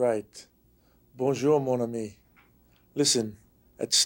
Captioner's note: speaking French